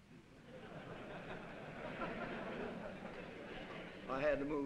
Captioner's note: laughter